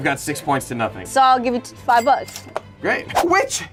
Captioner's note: cash register rings